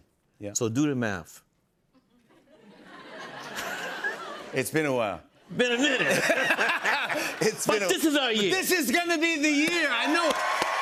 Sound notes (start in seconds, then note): 2.0 laughter